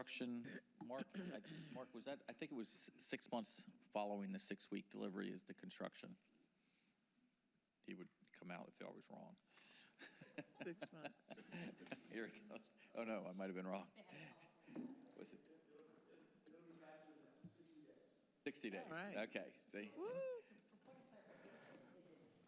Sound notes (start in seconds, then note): 12.8 laughter